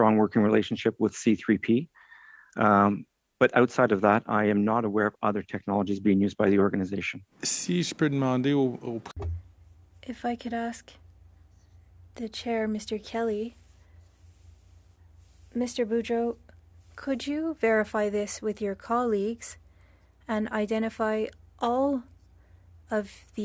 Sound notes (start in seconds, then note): 15.5 speaking French